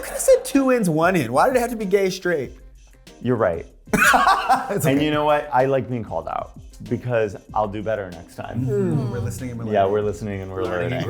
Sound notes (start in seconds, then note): 3.9 laughing